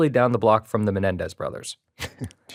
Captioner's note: chuckles